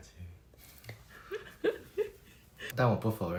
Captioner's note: laughs